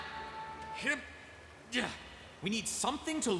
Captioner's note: straining